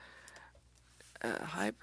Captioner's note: speaking French